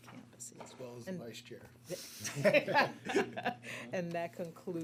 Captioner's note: laughter